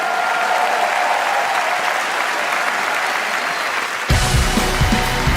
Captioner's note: applause